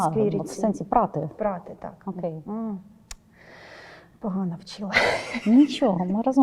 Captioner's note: Ukrainian